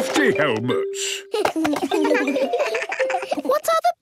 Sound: giggles

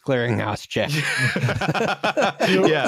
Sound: laughter

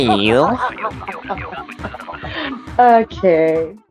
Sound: continue laughing

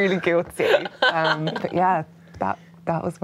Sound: laughing

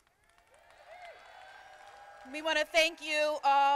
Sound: crowd applauding

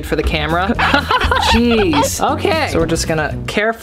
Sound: squeaking

